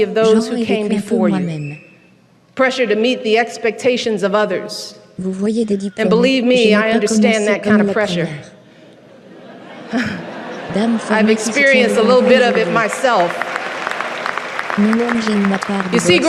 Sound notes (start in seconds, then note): 8.7 audience laughing; 13.2 audience applauses